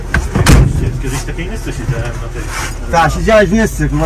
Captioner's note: car